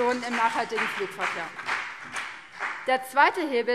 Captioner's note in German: Beifall BÜNDNIS 90/DIE GRÜNEN